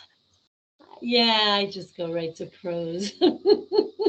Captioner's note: laughing